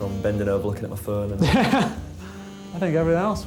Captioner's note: laughs